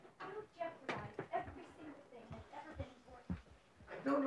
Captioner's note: parents arguing